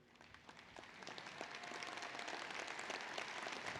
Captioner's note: applause